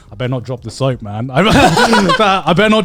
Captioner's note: both chuckling